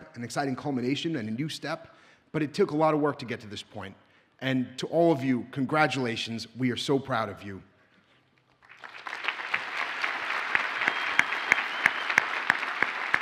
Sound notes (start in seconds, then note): 8.6 audience applauds